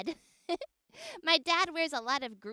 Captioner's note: laughs